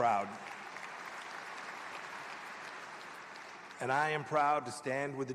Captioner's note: applause